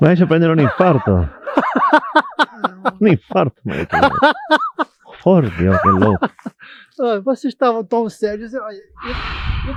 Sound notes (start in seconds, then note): 5.3 Bruno laughs amused